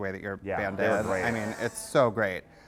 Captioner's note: voiceover